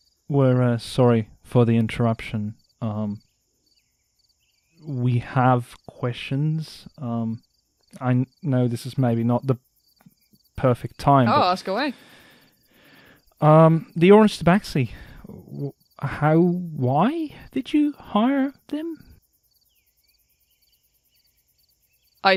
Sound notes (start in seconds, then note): 14.8 sighs